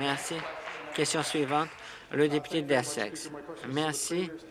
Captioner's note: applause